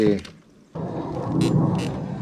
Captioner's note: airplane noises